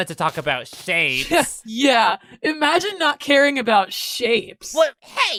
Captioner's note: scoff